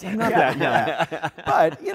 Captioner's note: laughter